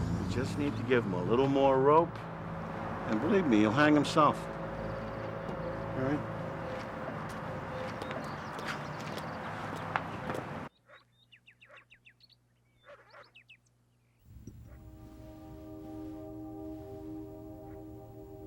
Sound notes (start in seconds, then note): 12.8 dog barking; 14.3 soft dramatic music